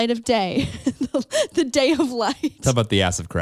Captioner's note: giggles